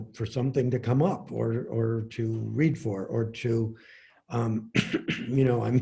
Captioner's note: coughs